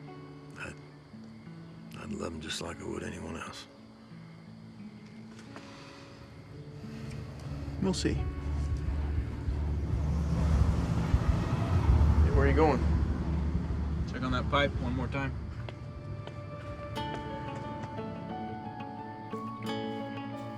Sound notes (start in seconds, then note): 7.3 sighs; 9.9 car engine rumbling; 17.2 gentle bright music